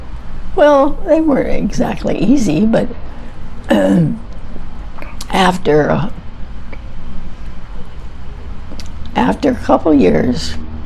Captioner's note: clears throat